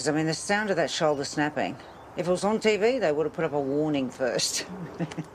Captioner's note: laughs